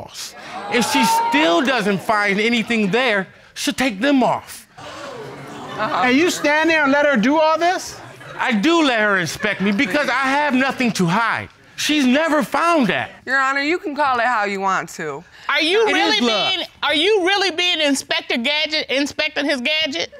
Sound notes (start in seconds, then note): 4.7 audience gasp